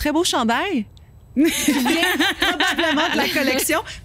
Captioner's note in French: rires